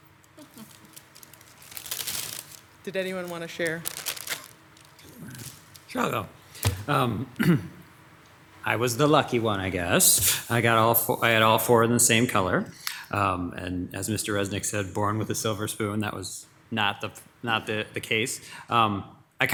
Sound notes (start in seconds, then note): 0.3 candy wrappings crackle